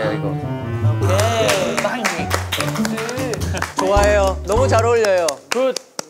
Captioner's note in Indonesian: tepuk tangan